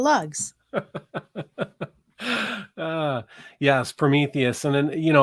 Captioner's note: laughing